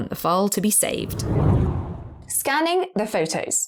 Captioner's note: video effect whooshes